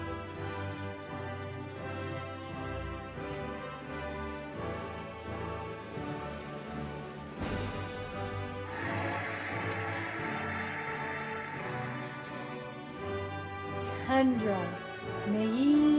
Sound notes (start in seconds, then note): 0.2 cheerful music; 8.6 cheering and applauding